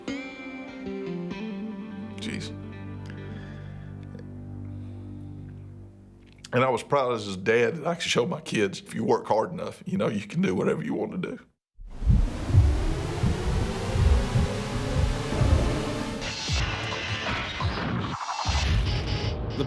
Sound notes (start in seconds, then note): 11.8 heartbeat thumps